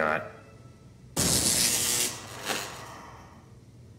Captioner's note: static electricity